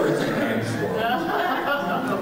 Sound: laughing

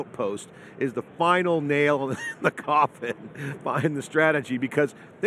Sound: laughs

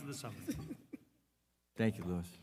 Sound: board member laughing

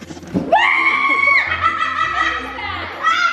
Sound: screaming; laughing

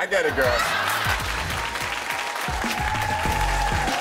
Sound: audience cheering

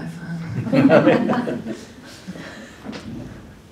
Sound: laughter

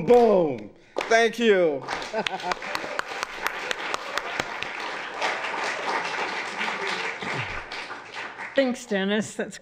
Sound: applause

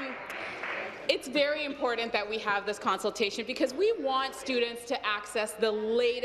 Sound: applause

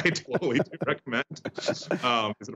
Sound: laughter

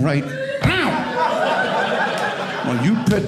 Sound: audience laughing

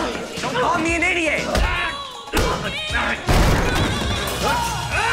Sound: grunting

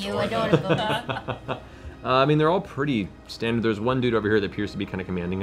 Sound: laughs

